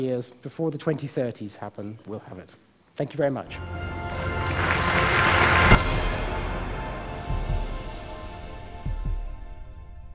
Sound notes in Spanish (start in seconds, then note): 3.5 Aplausos